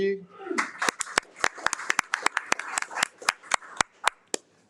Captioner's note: attendees applaud